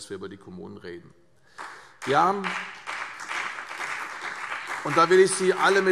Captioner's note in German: Beifall CDU und BÜNDNIS 90/DIE GRÜNEN